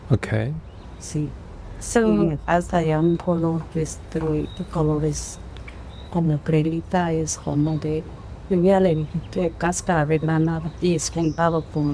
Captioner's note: speaking spanish